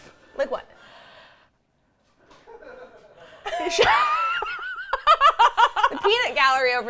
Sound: laughs

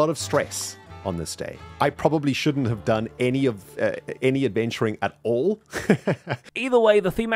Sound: laughs

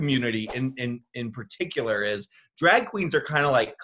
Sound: graphic whooshes

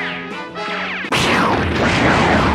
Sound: zap

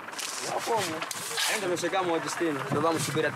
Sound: Portuguese spoken audio

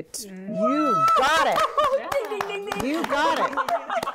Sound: women cheering and clapping

